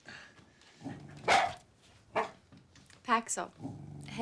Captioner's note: Paxil barks